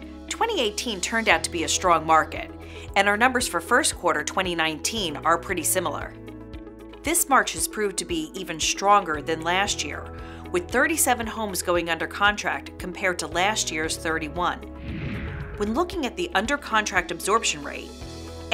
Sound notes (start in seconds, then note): 14.8 swooshing